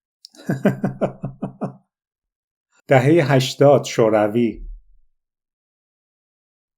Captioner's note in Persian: خنده